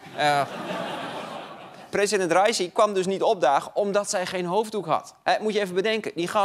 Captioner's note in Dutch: gelach